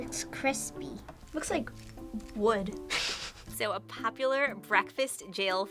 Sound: chuckles

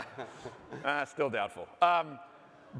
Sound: laughter

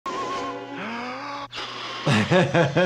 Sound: inhaling deeply, blowing; doctor laughing

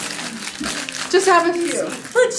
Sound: wrapper crackling

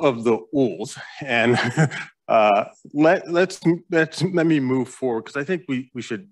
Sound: chuckles

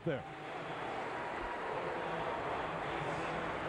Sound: stadium announcement

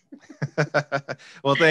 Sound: both laugh

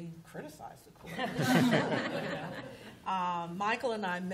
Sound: laughter

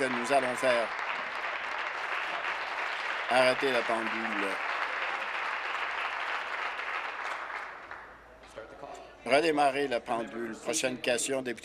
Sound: applause

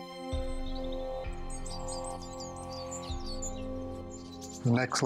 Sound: birds chirping

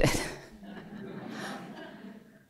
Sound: laughter

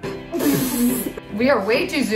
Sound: laughing

